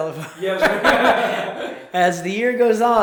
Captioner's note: both laugh